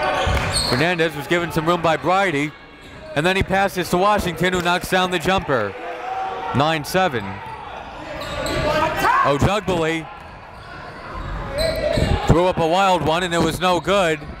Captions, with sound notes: (crowd cheers) Fernandez was given some room by Brydie and then he passes to Washington who knocks down the jumper. 9-7. Ojugbele. Threw up a wild one and it was no good.